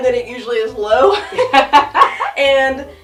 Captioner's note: both laugh